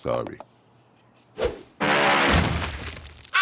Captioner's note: zoom! Crash!